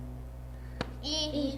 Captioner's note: tap